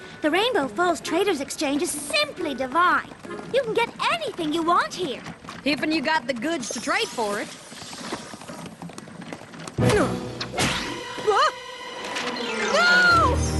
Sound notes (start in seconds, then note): 9.9 grunt